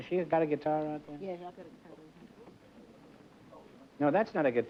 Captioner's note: mumbling